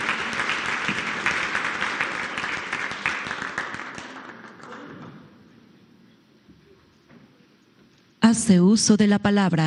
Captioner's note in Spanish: aplausos